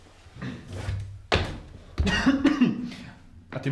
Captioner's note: passive smoke lung cancer noises